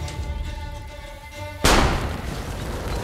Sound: gunshot

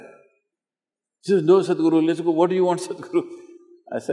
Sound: laughs

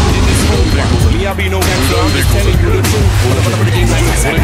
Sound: starts jet engine

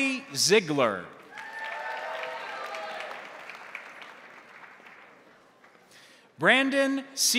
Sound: crowd applauding; crowd cheering

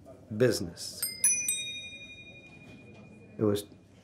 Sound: bell rings

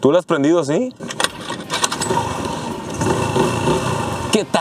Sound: engine roaring

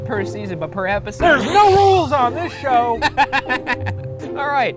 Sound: laughs

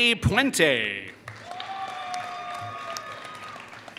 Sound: applause

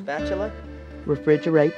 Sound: voiceover

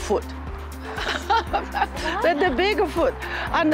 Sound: laughs

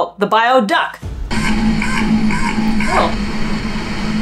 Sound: noise abruptly fluctuating between low & medium pitch; metallic low thrumming

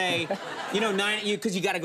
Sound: studio audience laughs

